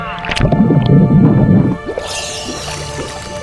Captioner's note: water bubbling; light intense music